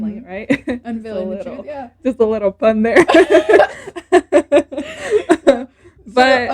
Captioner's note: more laughter